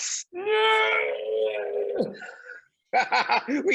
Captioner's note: Seth groaning; Randall laughs